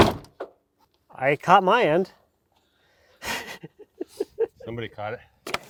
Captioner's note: laughing